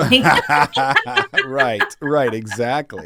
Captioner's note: laugh